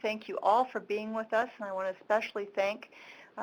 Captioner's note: speaking in Native language